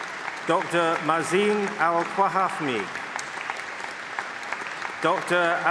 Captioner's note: applause; applause